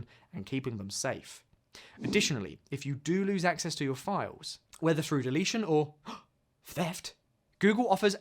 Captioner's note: gasp